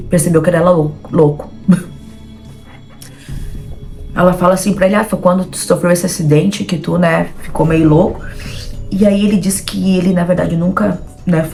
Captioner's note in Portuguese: risos